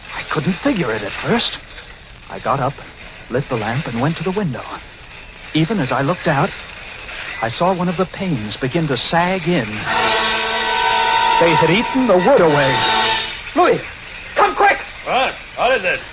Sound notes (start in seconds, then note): 13.6 yelling